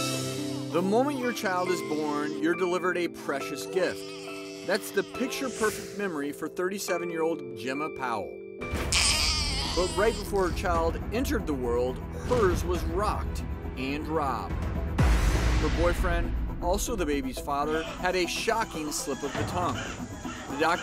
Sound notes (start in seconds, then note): 8.9 baby crying